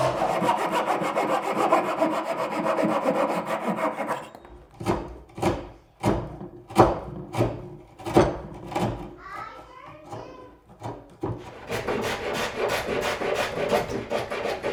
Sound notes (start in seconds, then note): 0.0 tool scraping; 5.2 saw thudding; 10.7 tool scraping